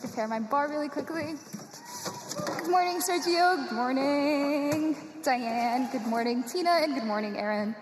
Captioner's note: cheers and applause